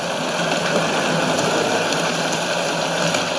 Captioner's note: raining